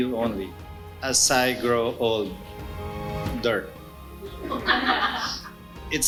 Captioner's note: laughs